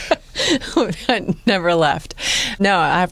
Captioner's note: laughing